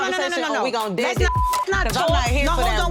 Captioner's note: beep